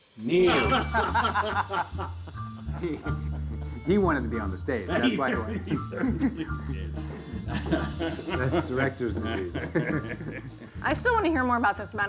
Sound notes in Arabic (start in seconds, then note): 0.4 ماركوس ومايكل يضحكان; 4.8 يضحك; 10.3 يضحك